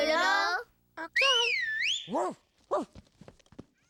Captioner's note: whistle